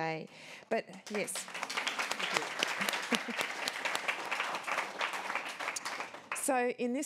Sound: applause

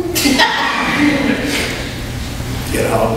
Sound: audience laughs

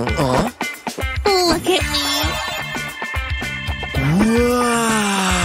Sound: meows

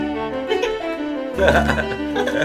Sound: awkward laughing continues

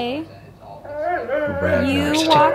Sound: dog whining

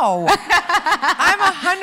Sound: laughs

